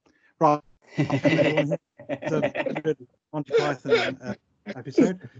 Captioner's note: general Laughter